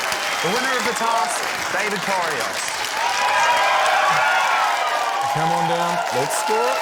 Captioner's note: cheering, applause